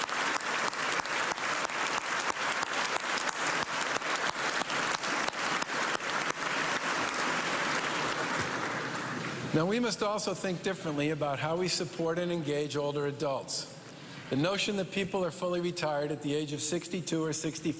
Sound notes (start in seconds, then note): 2.3 cheers and applause